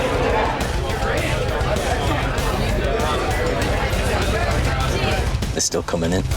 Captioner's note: customers continue chattering loudly; loud beeping